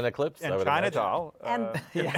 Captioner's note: laughter